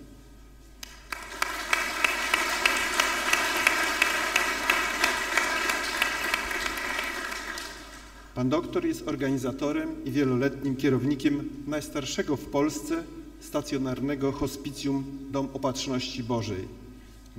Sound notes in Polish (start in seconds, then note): 0.8 oklaski